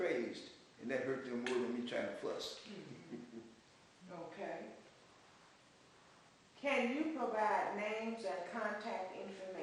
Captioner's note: laughs